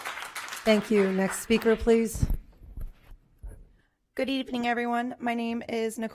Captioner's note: applause